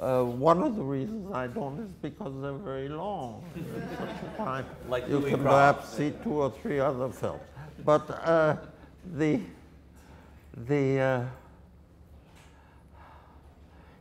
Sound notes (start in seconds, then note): 3.4 audience laughter